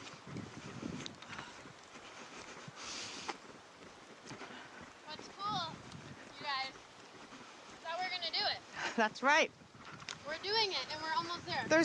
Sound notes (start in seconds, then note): 0.1 sound of footsteps; 0.5 heavy breathing; 2.8 river Flowing